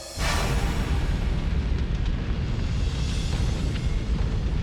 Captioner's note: asteroid roaring